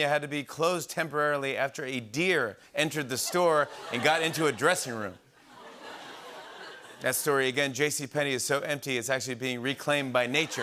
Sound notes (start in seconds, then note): 5.4 laughter